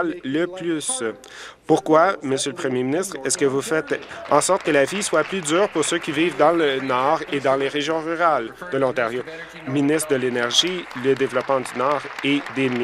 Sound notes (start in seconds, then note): 6.4 applause